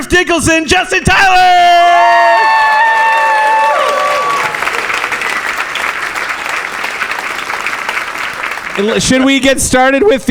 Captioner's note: audience applause